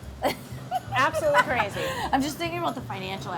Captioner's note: chuckles